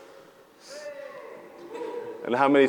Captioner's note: audience cheers